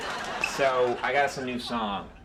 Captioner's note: audience laughing